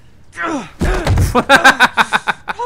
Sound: groans; thud; laughs

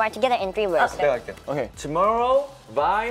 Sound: speaking Korean

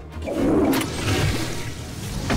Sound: toilet flushing

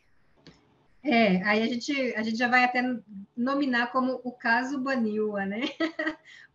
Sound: speaking in Portuguese

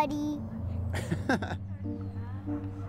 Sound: laughs

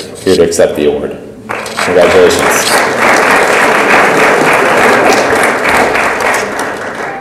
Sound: audience applauds

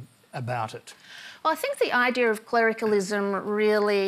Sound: none

